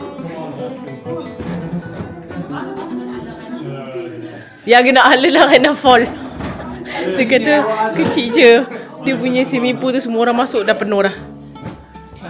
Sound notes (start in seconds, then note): 4.7 laugh; 4.7 speaking German